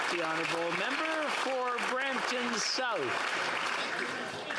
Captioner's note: applause